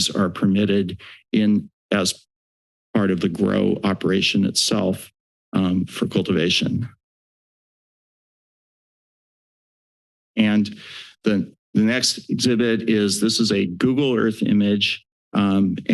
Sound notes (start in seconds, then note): 7.0 silence